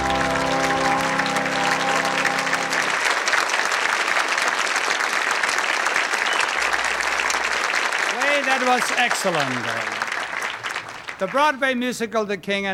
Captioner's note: applause